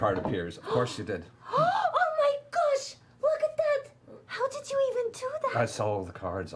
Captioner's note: gasps